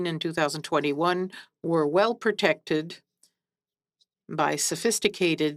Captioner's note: speaking French